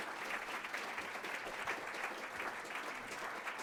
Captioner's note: applause